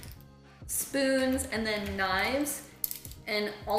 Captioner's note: clanking